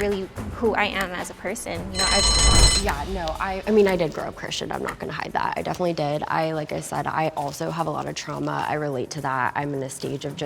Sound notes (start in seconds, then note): 1.8 bell ringing